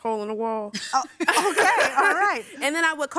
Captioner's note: laughing